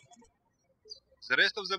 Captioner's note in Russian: птички щебечут